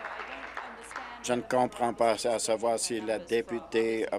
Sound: applause

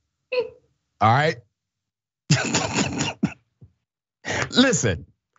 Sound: laugh

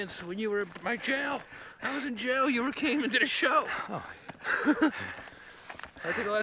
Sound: laughs

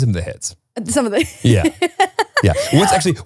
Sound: laughs

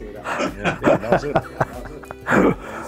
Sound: both laughing

